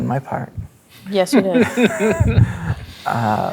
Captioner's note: laughing